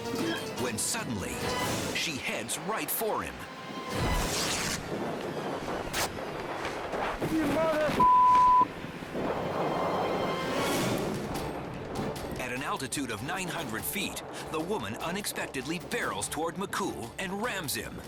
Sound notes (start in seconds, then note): 4.2 canopy rips; 8.0 beep